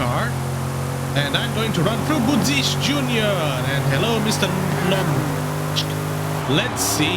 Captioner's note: confused noises